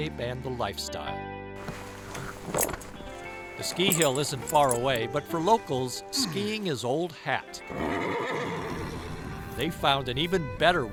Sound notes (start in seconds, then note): 7.6 horse neighing